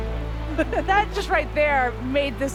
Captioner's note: chuckles